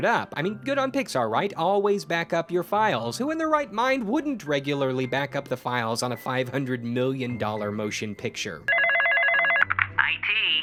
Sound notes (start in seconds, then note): 8.7 phone ringing